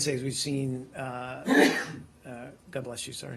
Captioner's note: sneezing